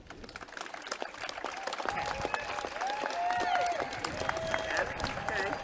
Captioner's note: clapping and cheering